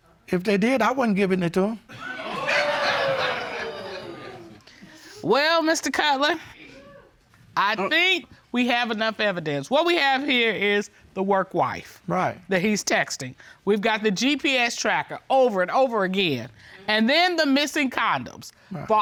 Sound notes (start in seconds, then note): 1.9 audience gasping